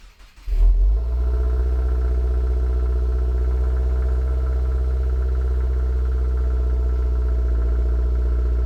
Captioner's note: engine revving